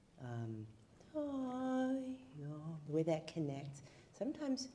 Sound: humming

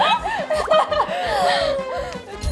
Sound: laughing

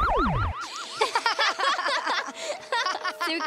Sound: laughing

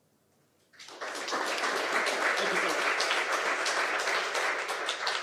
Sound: audience applauding

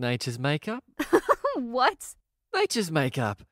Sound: laughs

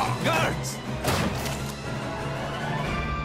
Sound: door sams open

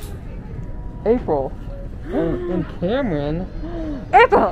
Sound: gasps

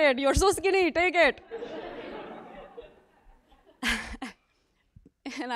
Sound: laugh

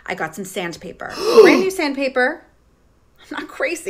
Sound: gasps

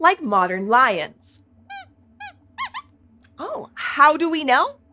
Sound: squeaks squeaks

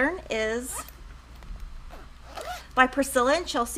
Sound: whizzing

